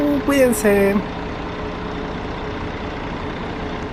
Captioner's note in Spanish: sonido del bus yéndose